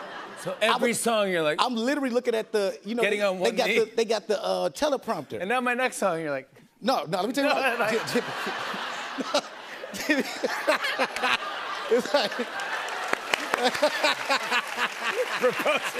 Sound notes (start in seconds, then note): 0.0 laughter; 7.5 laughter; 12.2 applause